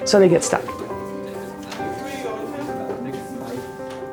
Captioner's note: classroom chatter